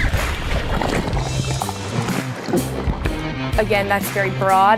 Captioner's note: water bubbling; compelling music continues